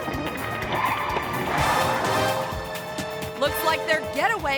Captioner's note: tires screeching